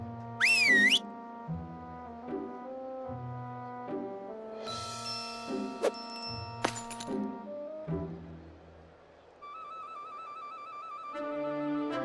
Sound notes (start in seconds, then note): 0.4 whistles; 5.3 triumphant music